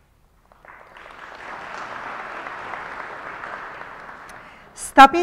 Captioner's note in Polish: oklaski